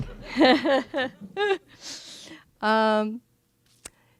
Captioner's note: audience laughing; laughs